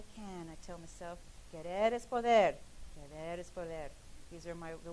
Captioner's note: speaking in a foreign language